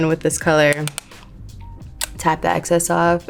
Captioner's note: brush tapping